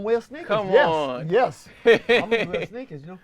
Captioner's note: laughs